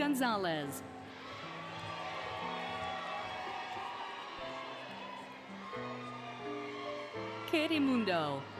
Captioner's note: applause, Cheering, Music